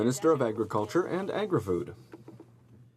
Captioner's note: speaking French